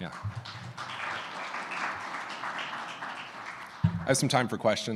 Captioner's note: audience applauding